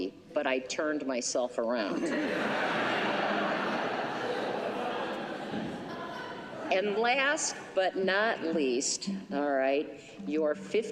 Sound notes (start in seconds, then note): 1.9 laughter